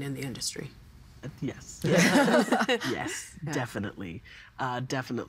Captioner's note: all laughing